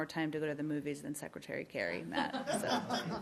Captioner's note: laughter